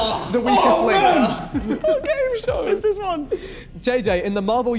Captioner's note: men exclaiming; men laughing